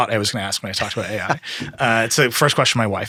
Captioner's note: laughing